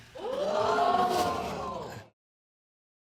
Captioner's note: audience gasping